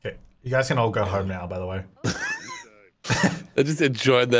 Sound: laughing

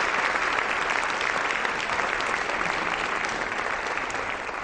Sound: audience applause

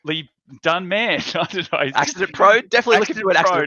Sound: laughs

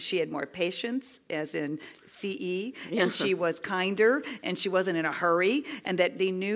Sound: laugh

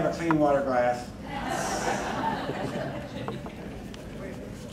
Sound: crowd laughing

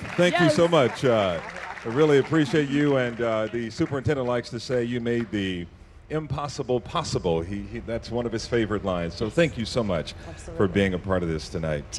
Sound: applause

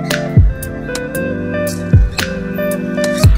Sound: birds chirping

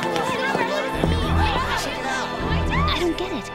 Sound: indistinct chattering and cheering

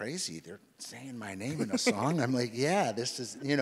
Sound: laughs

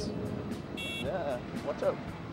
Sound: horn honks

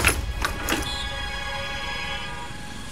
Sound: door opening

